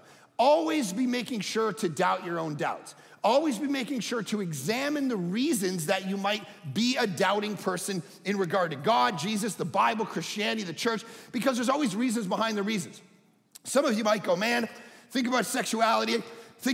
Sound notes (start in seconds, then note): none